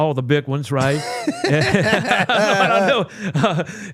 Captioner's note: both laugh